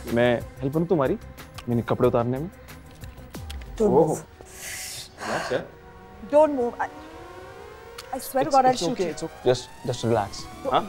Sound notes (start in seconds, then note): 2.8 Sucks teeth; 4.4 Exhales